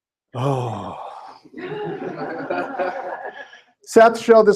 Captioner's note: laughter